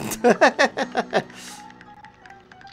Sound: laughter

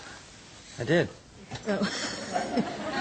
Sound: laughs

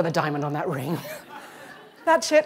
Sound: laughter

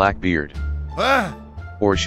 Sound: Confused American Noises

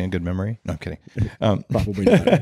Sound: laughing

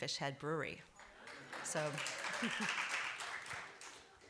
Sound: applause

